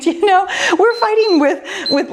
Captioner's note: timer beeps